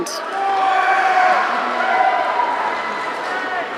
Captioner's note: audience cheering